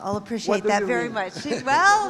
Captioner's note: chuckles